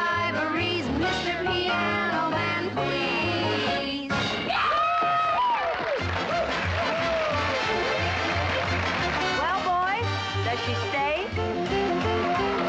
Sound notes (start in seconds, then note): 4.5 cheering and whooping